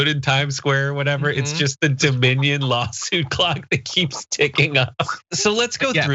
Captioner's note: laugh